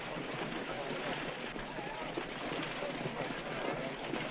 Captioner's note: people chattering